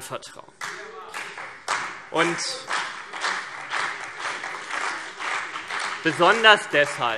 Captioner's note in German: Beifall CDU und BÜNDNIS 90/DIE GRÜNEN